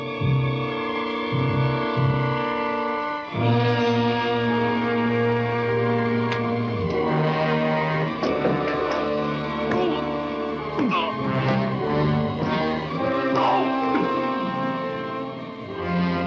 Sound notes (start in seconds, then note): 8.4 Edward grunting